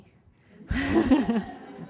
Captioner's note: laughter